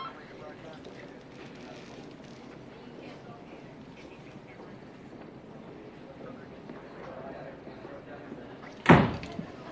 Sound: phone ringing

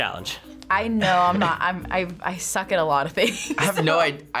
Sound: laughs

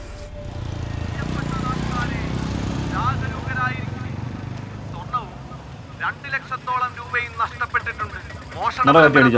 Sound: p.a announcement

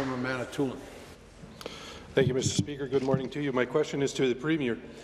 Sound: applause

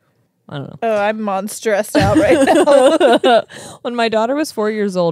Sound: laugh

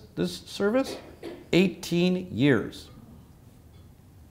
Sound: cough

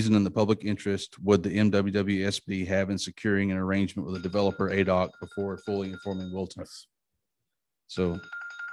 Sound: alarm sounds

